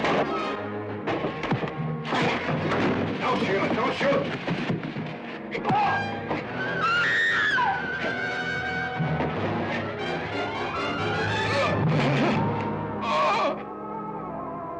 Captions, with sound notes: - Don't shoot, don't shoot. (blows thudding) (men grunting) (Sheila screaming) (Mark groaning)